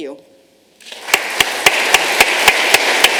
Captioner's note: applause